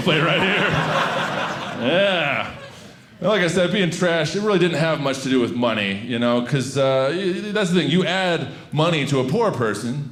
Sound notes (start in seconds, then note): 0.0 audience laughing